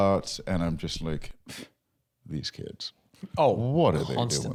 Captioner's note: scoffs